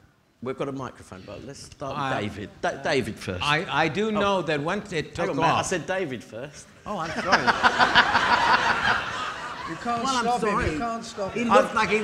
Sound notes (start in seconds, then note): 7.0 laughing